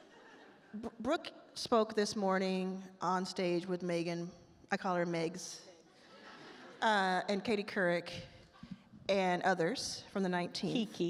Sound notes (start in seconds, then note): 6.0 attendees laugh